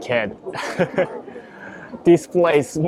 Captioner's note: chuckles